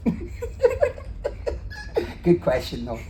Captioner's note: laughs